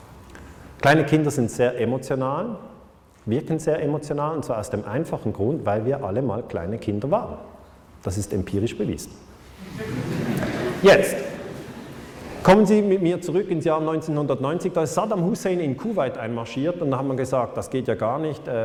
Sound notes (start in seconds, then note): 9.6 laughter